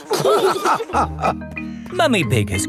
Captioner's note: all laughing